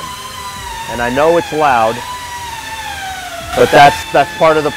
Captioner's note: sanding noises